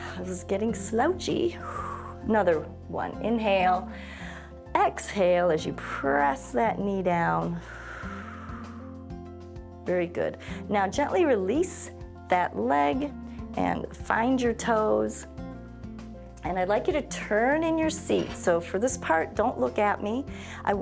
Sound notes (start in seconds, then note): 1.6 exhales; 3.9 inhales; 7.6 exhales